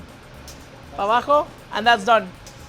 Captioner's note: speaks Spanish